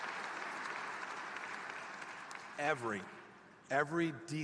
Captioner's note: applause